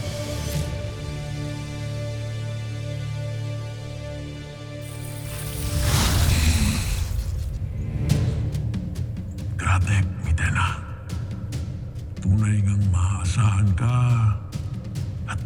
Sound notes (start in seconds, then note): 0.1 music swells; 4.8 evil energy whoosh & crackle; 7.6 tense music playing